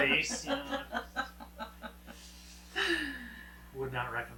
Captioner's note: laughing